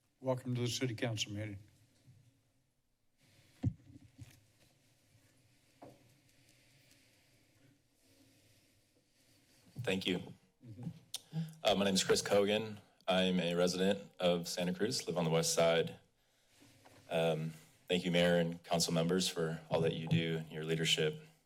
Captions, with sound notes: Welcome to the City Council Meeting. [silence] - Thank you. Uh, my name is Chris Kogan. I'm a resident of Santa Cruz. Live on the west side. Um, thank you Mayor and Council Members for all that you do and your leadership.